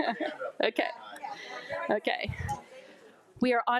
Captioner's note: laughs; group chattering